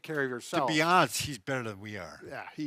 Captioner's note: chuckles